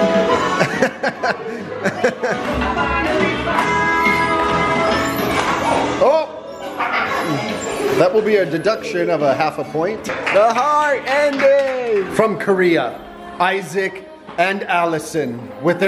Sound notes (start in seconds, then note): 0.4 laughs; 6.7 laughs